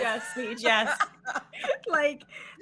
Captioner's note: laughing; laughs